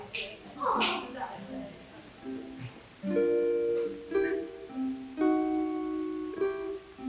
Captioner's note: people chattering; gentle music